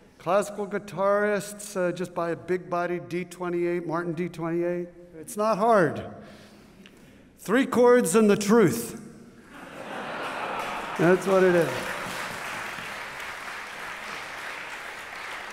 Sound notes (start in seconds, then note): 9.4 laughter; 12.3 applause